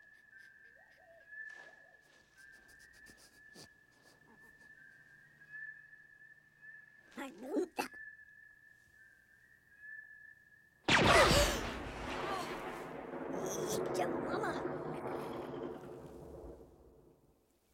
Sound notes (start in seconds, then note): 2.1 sniff Sniff Sniff; 6.6 Speaking Ewokese; 10.9 zap; 12.7 Speaking Ewokese